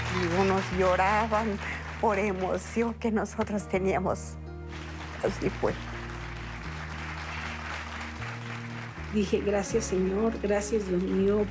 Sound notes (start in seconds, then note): 0.1 in Spanish; 4.6 applause continues